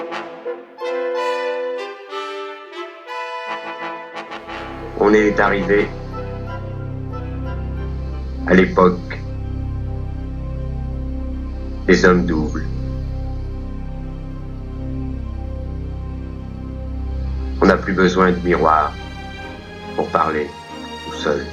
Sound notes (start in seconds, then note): 0.0 triumphant music; 4.9 voiceover of man speaking in french; 8.2 voiceover of man speaking in french; 11.8 voiceover of man speaking in french; 13.9 thoughtful electronic music; 17.3 voiceover of man speaking in french